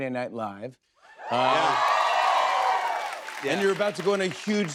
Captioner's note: cheers and applause